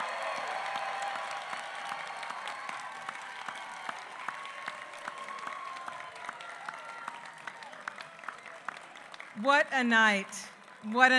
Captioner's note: applause